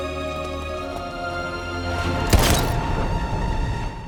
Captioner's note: gunshot